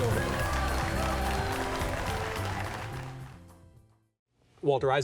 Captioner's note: clapping and cheering